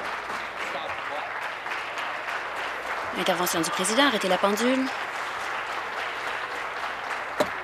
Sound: some Applause

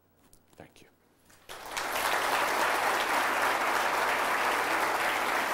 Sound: audience applause

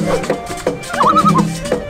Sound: loon calls

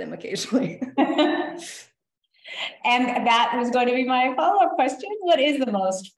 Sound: laughs

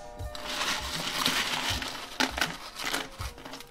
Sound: ice crinkling

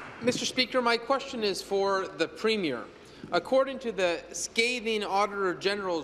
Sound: applause

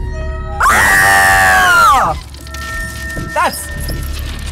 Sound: scream

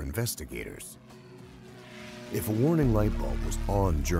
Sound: voiceover

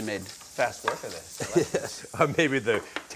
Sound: Ming chuckles

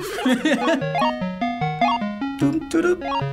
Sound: laughing

